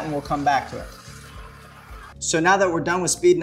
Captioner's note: stirring